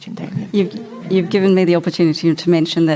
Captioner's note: audience Laughter